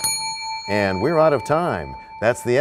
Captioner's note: bell rings, time expires